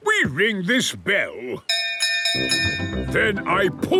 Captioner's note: bell chimes